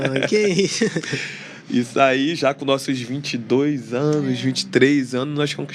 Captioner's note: risadas